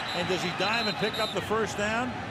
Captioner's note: whistle